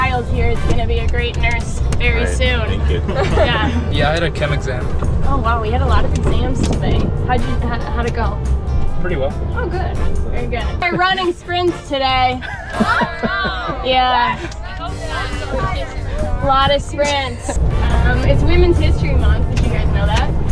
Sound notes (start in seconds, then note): 2.7 laughing; 12.4 groans, laughing; 14.4 talking